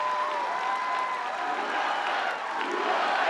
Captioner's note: applause